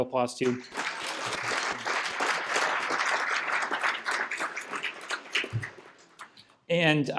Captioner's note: applause